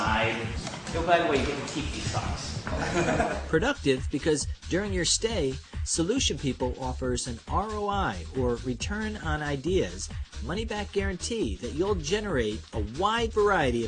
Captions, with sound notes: [laughter] >> Productive, because during your stay, SolutionPeople offers an ROI -- or "return on ideas" -- money-back guarantee that you'll generate a wide variety